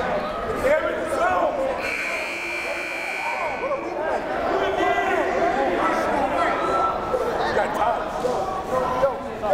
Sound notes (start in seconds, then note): 2.3 timer buzzes; 6.7 crowd murmuring